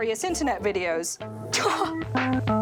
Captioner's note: laughs